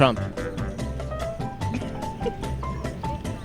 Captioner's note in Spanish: Se ríe en voz baja